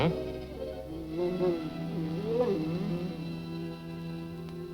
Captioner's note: dog whining